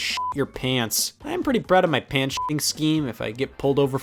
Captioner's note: beep; beep